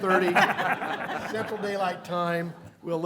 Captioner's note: laughter